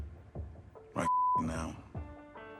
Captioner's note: beep